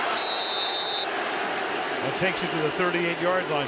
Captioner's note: whistles